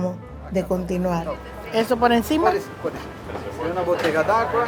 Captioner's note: speaking spanish